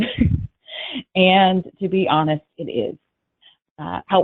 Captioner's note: laughs